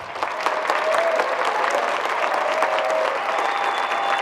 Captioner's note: group clapping